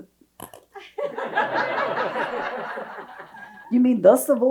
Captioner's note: audience laughs